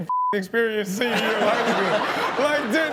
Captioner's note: audience laughing; laughing